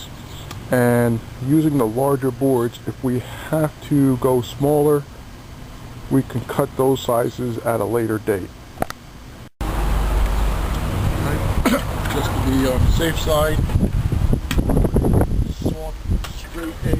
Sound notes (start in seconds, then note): 8.6 clearing throat